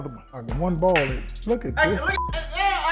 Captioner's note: beep